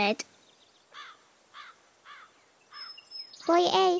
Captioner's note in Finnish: korppi raakkuu